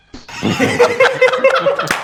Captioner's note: everyone laughs